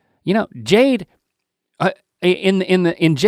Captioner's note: none